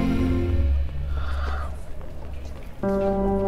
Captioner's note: Sighs